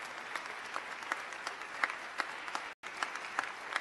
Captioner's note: applause